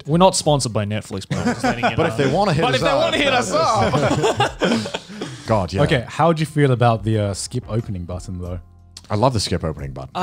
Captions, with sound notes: - We're not sponsored by Netflix but just letting you now. - But if they wanna hit us up. - But if they wanna hit us up. (laughs) - Good yeah. - Okay, how'd you feel about the skip opening button though? - I love the skip opening button.